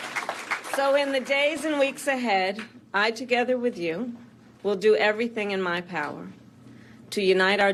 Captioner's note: applause